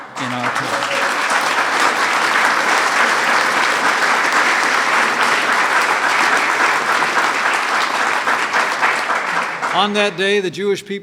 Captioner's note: applause